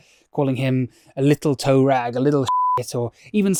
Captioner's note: beep